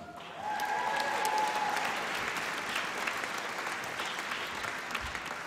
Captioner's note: applause and cheering